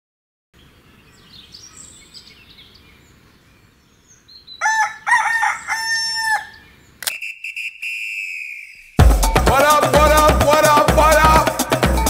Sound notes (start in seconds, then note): 1.1 birds chirping; 4.6 rooster cries; 11.8 funky music